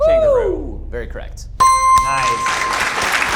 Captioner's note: bell rings; audience applauding